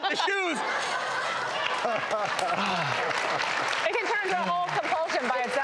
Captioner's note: audience clapping